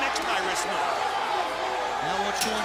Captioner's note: crowd cheering